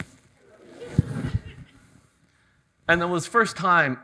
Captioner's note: audience chuckles